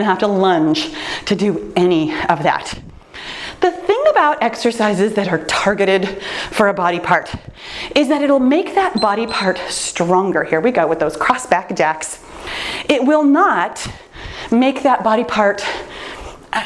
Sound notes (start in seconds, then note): 8.9 timer beeps